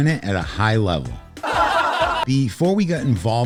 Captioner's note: comical audience laughter